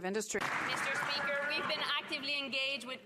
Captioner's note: some Applause; speaking French